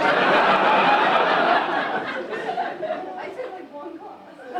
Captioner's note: audience laughing